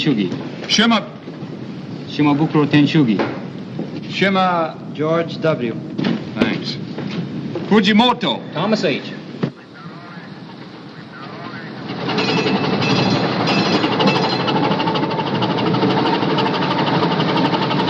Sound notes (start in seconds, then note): 12.0 bell dinging